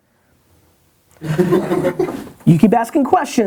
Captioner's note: laughter